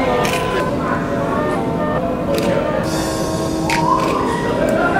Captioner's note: camera clicking; mellow music